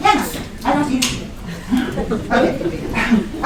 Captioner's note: laughter